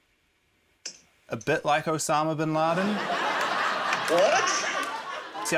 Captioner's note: laughter